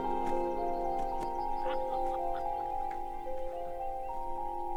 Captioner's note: laughter